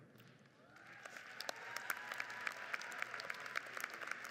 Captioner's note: crowd applauds